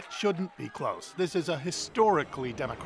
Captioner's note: cheers and Applause